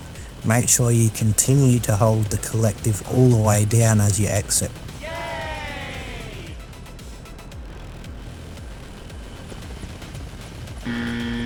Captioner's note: crowd cheers